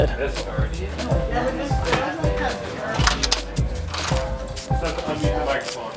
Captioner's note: people chat